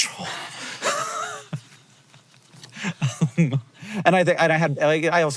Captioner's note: both laughing